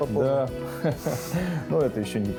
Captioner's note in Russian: смеется